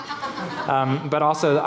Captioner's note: laughing